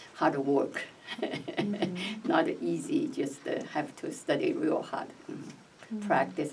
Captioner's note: laughs